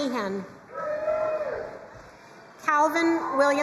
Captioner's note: crowd cheering and applauding